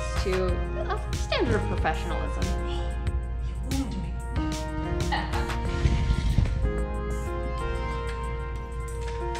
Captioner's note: laughs